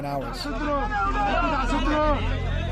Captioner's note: shouting